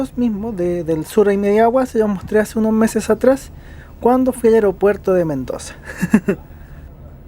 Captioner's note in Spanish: risas